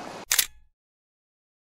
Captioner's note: camera shutter clicks